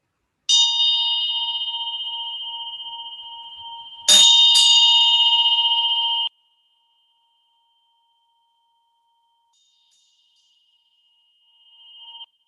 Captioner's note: sound of a bell